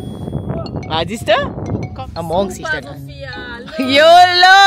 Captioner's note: speaking German